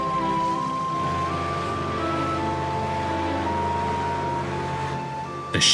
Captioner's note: tugboat horn; freighter horn